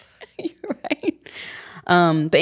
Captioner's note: chuckling